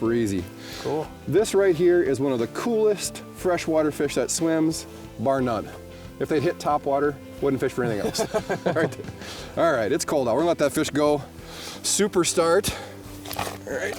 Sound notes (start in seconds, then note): 7.9 laughing